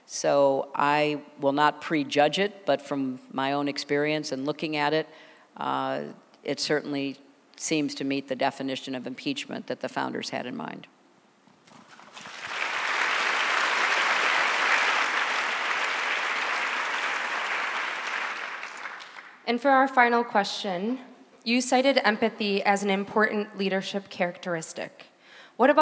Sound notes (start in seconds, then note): 11.6 applause